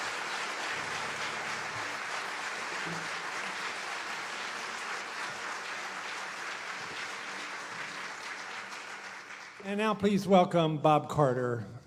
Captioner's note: applause